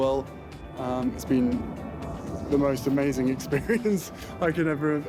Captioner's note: laughs